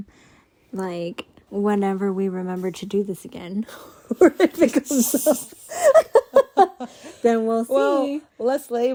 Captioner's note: laughing